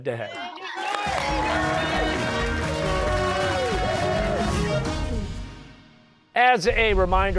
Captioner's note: cheers and applause